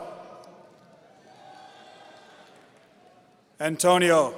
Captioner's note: audience cheering